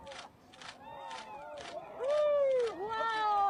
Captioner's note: cheers